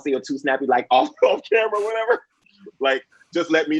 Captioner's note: Nico laughs